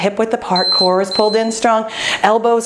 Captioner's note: timer beeping